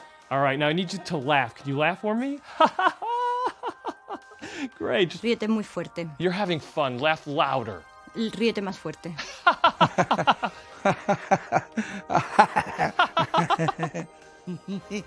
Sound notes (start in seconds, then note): 0.3 speaks in english; 2.5 laughs; 6.4 speaks in english; 9.2 laughs